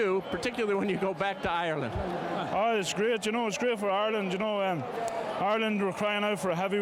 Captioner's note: applause